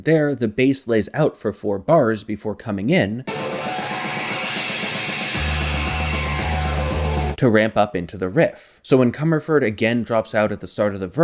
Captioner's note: bang